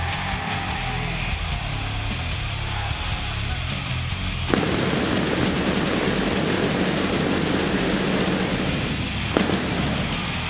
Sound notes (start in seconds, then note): 4.4 fireworks banging